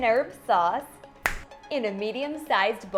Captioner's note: finger snaps